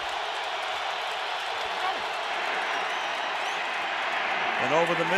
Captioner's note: crowd cheering